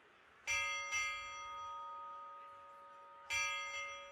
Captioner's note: bell ringing